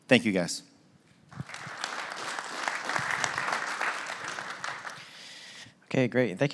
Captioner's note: applause